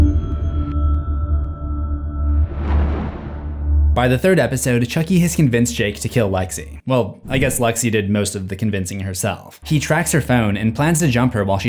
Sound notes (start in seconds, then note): 0.8 sinister music; 2.6 thunder rumbles